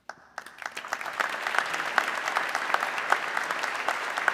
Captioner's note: audience clapping